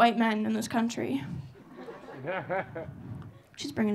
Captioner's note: audience laughing